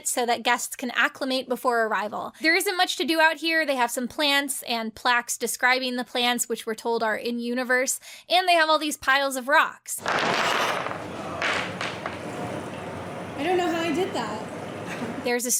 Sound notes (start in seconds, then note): 10.0 rocks clattering